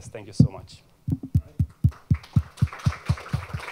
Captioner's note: applause